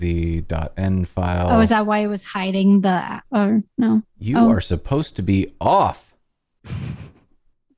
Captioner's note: laughter